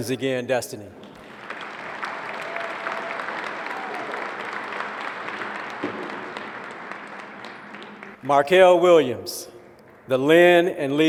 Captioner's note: applause